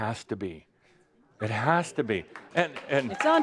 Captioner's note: some applause